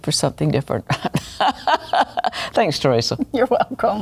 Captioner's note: laughs